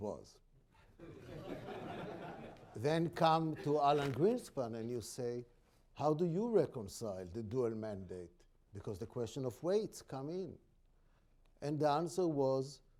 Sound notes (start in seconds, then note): 0.9 laughter